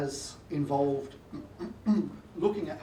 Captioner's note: coughs